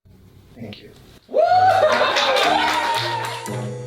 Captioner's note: light laughter and clapping